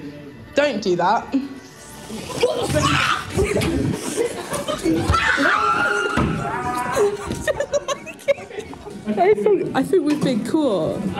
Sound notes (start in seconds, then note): 1.9 window slides open, screams; 4.0 giggling and screaming